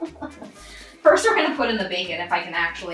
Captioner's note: laughs